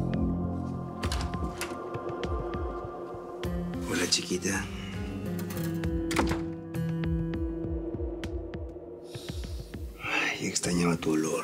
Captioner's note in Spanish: sonido al abrir la puerta